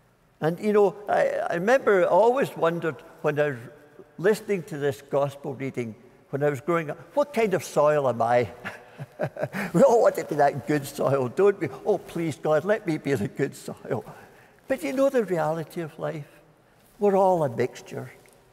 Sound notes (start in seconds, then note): 8.6 chuckling